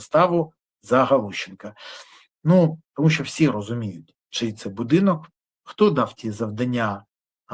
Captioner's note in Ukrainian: сопіння